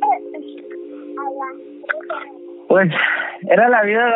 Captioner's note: sonidos de bebé